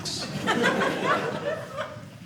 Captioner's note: audience laughing